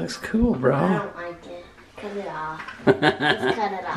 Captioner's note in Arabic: أبي يضحك